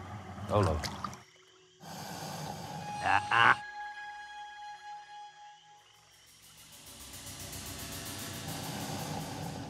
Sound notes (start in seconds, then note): 0.6 splashihing; 1.8 hissising; 7.2 hissing